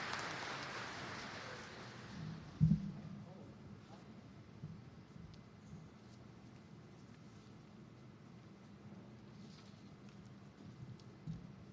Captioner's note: applause